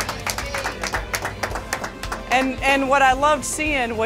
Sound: team clapping

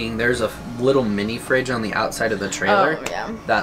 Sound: none

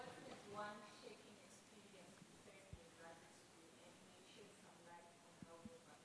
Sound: student speaking off mike

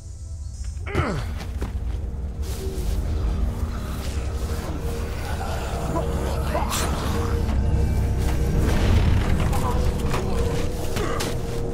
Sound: zombie growns

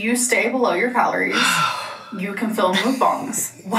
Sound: sighing

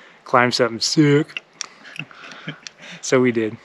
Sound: laughing

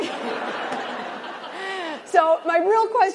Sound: laughter

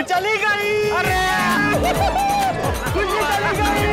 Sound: cheers

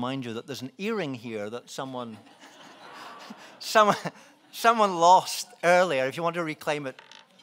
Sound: laughs

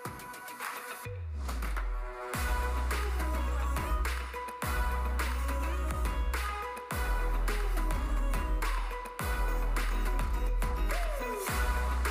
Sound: applause

